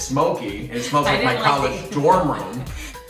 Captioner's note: laughs